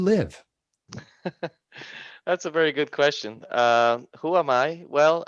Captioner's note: laughing